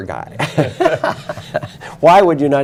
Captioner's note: laughter